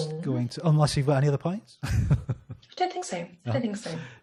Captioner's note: laughs